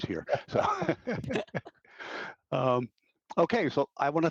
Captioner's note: all laughing